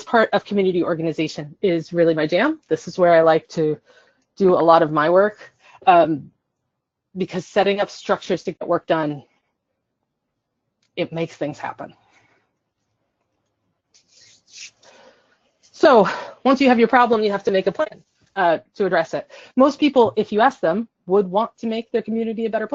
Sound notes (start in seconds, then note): 12.3 silence